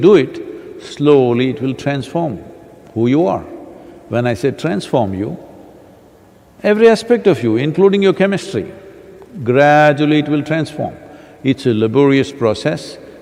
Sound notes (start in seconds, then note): none